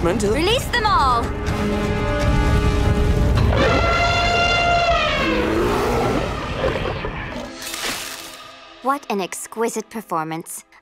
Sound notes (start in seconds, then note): 2.7 flames roar; 3.4 lions roar; 3.4 elephant trumpets